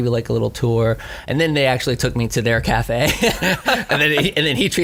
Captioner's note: laughs